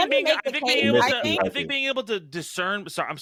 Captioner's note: laughter